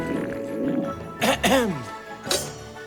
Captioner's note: clears throat